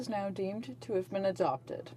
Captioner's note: speaking in french